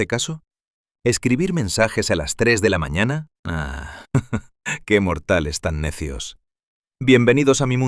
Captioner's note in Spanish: Ríe con sorna